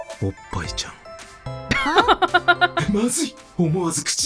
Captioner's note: chuckles